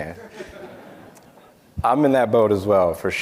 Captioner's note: audience laughing